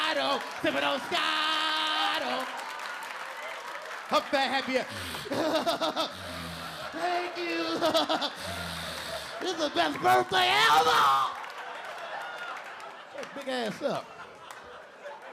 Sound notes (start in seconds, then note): 4.8 LilRel exaggerating laugh